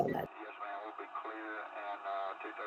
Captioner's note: radio Communication